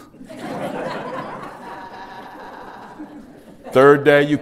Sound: laughter

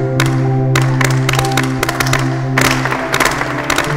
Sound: clapping; all students joins in clapping

